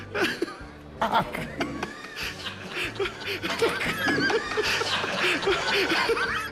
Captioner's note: laughter